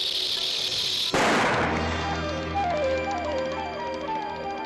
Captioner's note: loud gunshot; ominous whimsical music